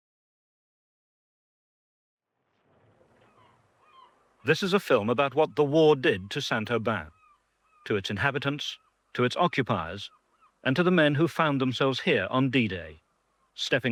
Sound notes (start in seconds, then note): 3.5 voiceover